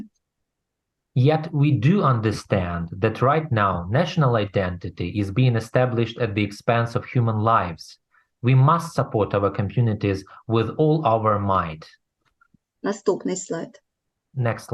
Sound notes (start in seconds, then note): 11.2 foreign language